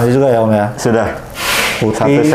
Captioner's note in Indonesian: suara styrofoam